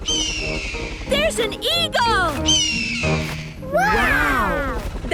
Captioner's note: eagle shriek; eagle shriek